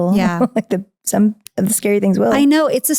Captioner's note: laughing